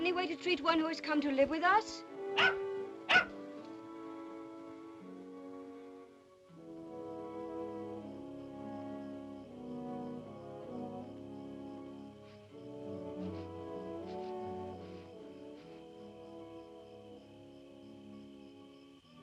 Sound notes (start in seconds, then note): 2.3 dog barks; 3.8 ominous music; 19.0 sentimental music